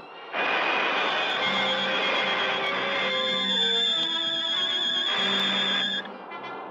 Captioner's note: suspenseful orchestral music; lasers blasting